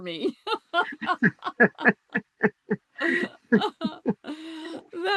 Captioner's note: laughter